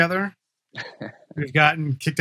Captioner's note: laughs